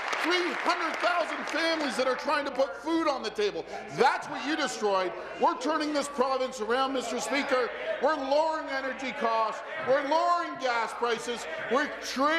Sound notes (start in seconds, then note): 2.5 applause throughout